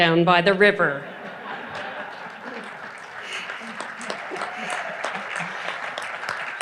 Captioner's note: audience laughing and applauding